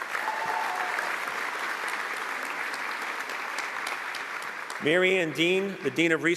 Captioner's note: applause